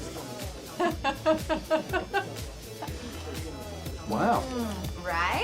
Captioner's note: laughter